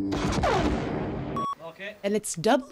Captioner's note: lightsaber clash; reel beep